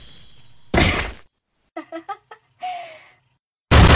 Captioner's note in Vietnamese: a hà ha ha ha há